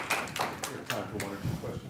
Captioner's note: audience applauding